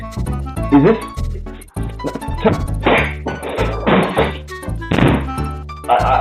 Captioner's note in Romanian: sunete demonice